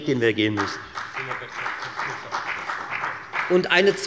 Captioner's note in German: Beifall bei der FDP - Vizepräsident Dr. Ulrich Wilken übernimmt den Vorsitz